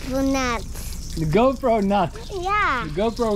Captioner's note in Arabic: يتحدث الهولندية